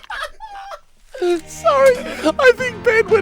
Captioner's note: breathe in